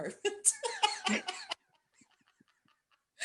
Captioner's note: laughter